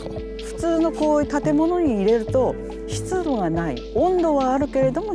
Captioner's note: woman speaking Japanese